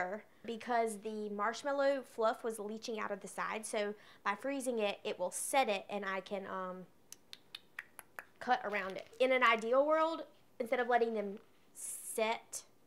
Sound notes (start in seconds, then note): 7.1 clicks tongue